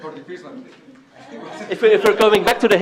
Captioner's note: laughter